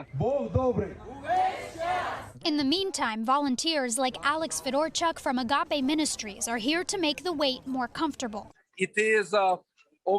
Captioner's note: speaking in foreign language